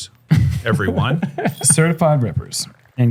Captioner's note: chuckles